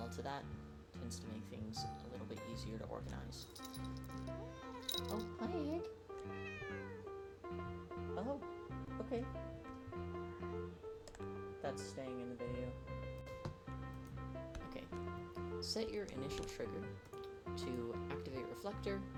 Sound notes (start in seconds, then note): 4.3 meow